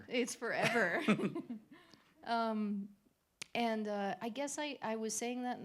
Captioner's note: laughter